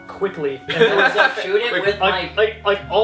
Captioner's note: laughter